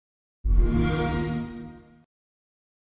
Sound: xbox sound

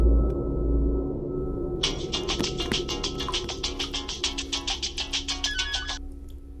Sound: phone rings

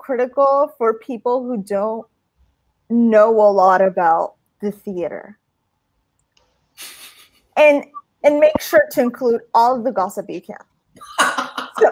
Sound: laughter

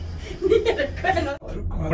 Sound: speaking in foreign language

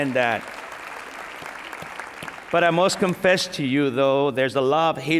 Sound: applause

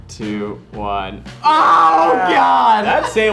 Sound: all groan

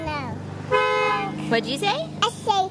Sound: car horn honks

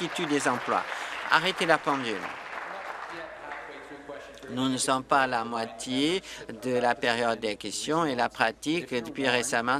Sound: applause

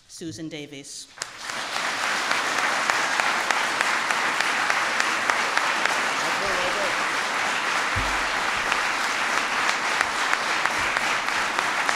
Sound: applause

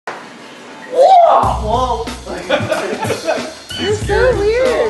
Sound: energetic shouting

